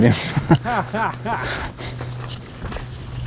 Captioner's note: laughing